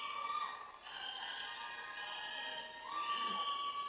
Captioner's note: audience cheers